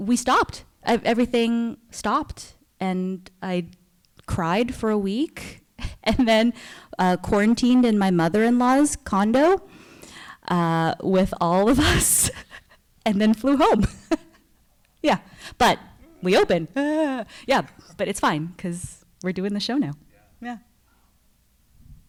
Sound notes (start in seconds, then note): 13.6 laughs